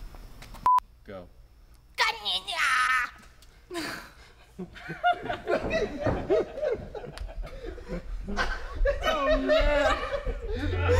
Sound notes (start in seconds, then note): 3.4 laughing; 4.9 group giggling